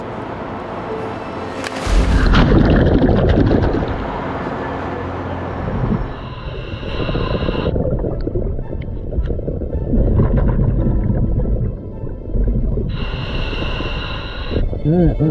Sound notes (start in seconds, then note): 1.6 water splashes; 6.2 breaths in; 9.7 water bubbles; 13.2 intense music